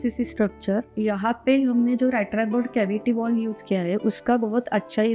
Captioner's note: in Hindi